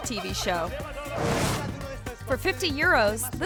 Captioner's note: person speaking in Spanish